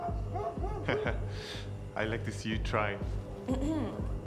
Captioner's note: laughing